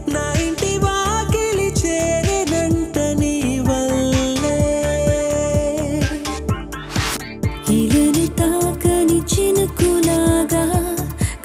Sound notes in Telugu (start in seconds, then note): none